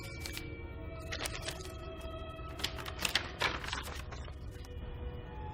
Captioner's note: paper rustling